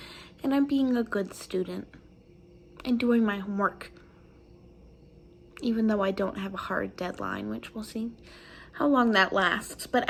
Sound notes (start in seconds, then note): none